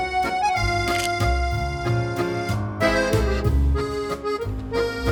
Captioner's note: camera shutters